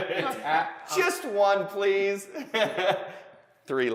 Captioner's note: laughs